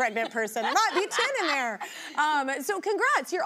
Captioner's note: laughing